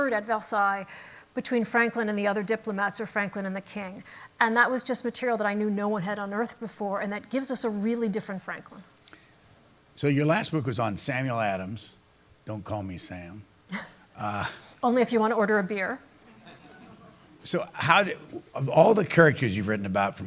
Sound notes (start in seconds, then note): 16.2 laughter; 16.2 chuckles